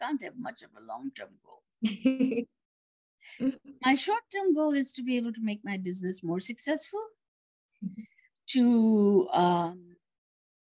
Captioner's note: laughs